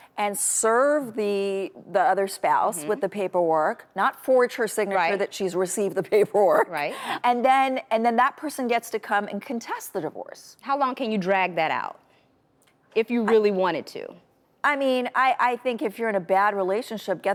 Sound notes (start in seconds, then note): 6.8 chuckles